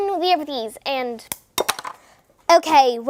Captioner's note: eggs smash